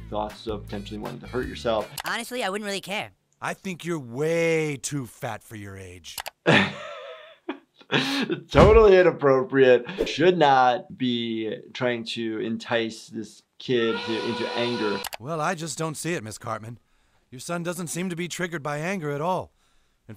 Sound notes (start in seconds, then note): 1.1 computer mouse clicks; 6.4 laughs; 13.8 steam whistling; 15.0 computer mouse clicks